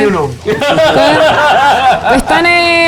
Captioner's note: laughs